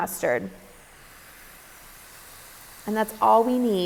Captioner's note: meal sizzling